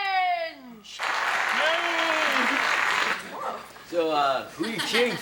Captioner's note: prerecorded applause plays; cheers